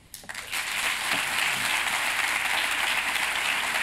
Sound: applause

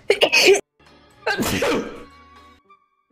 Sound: sneezes

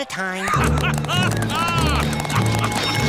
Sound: laughing

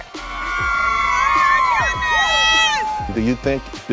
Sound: crowd shouting

